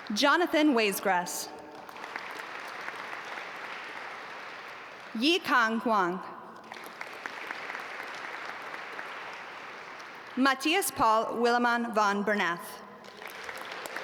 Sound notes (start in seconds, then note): 1.8 audience applaud; 6.6 audience applaud; 13.0 audience applaud